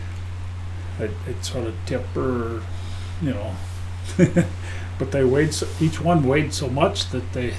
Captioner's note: chuckling